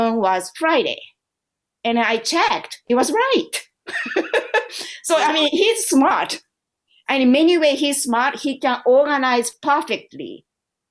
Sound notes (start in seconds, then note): 3.8 laughter